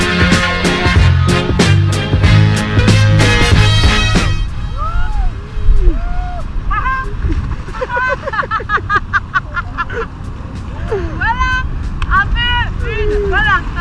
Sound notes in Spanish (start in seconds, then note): 7.2 risas